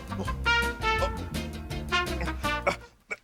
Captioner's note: mumbles and struggles